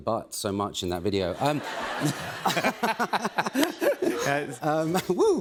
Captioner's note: laughter